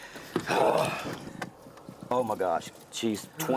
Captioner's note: grunts